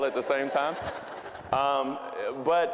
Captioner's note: audience laughing